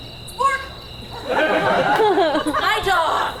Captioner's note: audience laughs